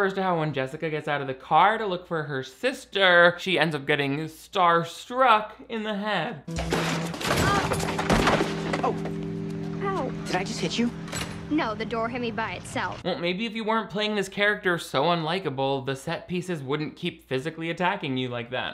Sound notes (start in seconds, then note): 6.6 door clanking